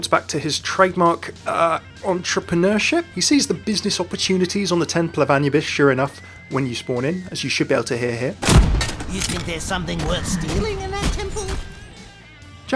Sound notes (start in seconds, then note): 8.4 gun fires